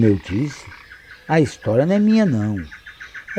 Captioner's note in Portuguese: Coaxo de sapo; Pássaros cantando